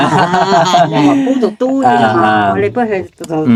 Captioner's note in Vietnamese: tiếng cười